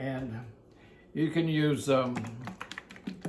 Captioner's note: dressing plops